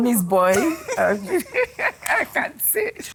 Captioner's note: laughing